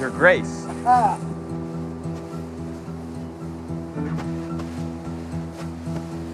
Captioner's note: Rick laughs